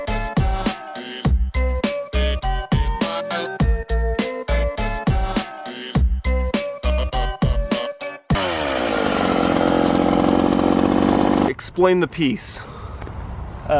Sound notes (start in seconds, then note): 0.2 electronic music; 4.9 chainsaw growls